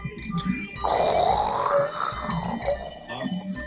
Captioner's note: roaring